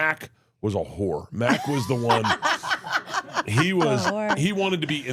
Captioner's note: laughs